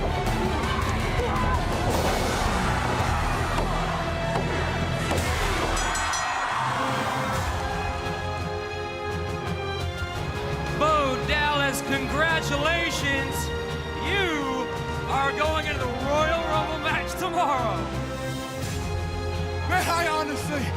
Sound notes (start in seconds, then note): 1.8 bell ringing